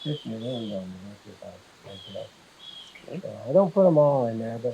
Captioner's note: drowned out by birds